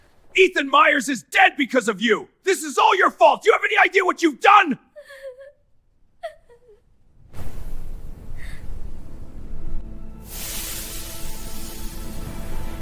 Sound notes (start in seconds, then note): 7.5 sobbing; 10.2 steam SFX